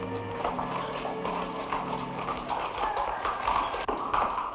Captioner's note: horse hooves patter